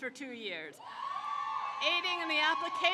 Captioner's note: crowd cheers